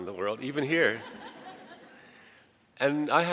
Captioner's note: audience laughs